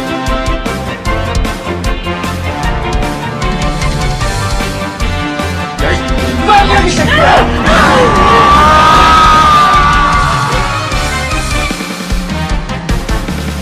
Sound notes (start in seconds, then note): 7.4 explosion